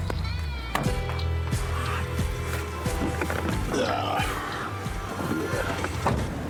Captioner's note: vehicle droning; vehicle rattling